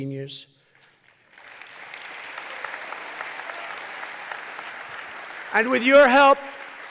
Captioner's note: applause